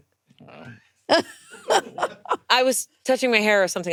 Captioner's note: laughing